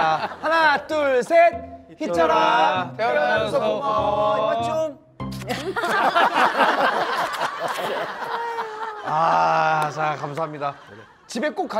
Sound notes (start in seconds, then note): 5.2 kissing